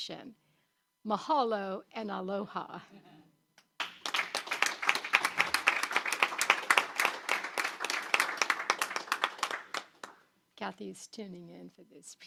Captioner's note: applause